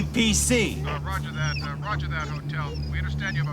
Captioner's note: man On Radio